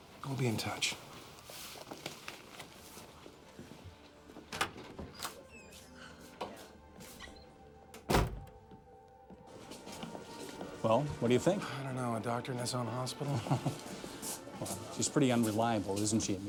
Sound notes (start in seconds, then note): 6.4 door closes; 13.2 chuckles